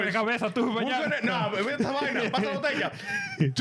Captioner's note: speaking In Foreign Language